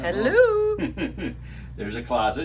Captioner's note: laughs